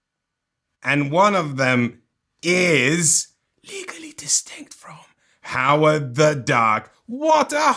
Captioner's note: whispers